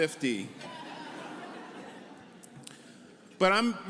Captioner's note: audience laughing